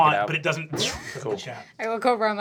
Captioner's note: whooshing